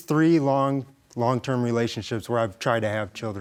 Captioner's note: none